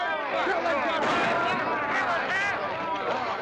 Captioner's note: drunken commotion; gunshot; drunken commotion